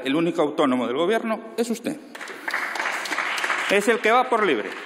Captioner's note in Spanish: Aplausos